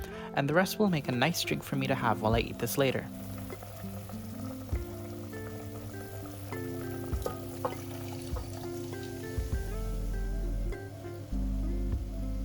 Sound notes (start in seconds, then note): 6.5 bubble; 6.5 fizz